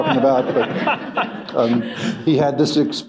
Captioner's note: laughter